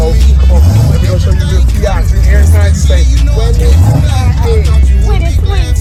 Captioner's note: engine revving